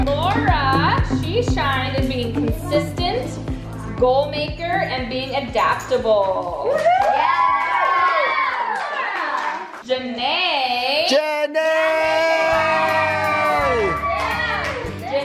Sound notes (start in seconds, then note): 6.6 kids cheering; 11.6 kids cheering